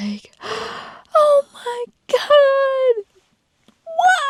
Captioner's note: gasp